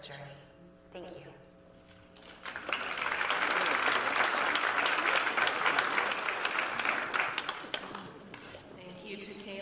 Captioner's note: applause